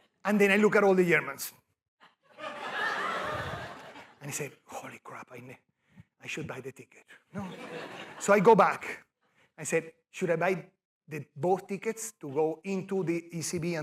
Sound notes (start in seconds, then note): 2.1 laughter